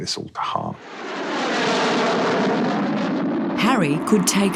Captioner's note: plane engines roaring